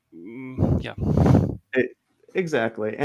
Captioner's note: chuckles